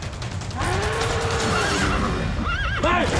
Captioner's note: mooing, horse whinnies